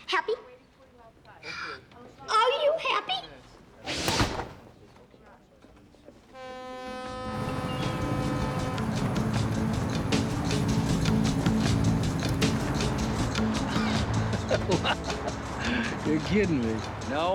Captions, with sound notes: Happy? (voice breaking) Are you happy? (ship horn blaring) (laughing) - You're kidding me.